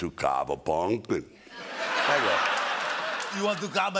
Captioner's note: laughter